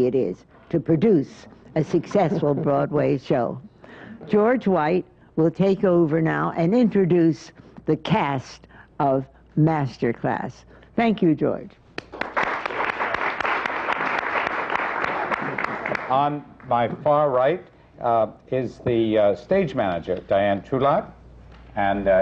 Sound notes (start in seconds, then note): 3.9 laughter; 12.0 applause